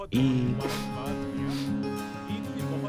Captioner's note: Laughs